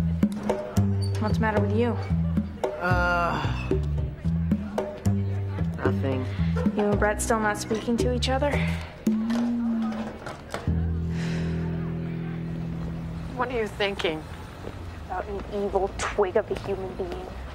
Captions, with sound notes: - What's the matter with you? (Griffin groaning) - Nothing. - You and Brett still not speaking to each other? - What are you thinking? - About an evil twig of a human being.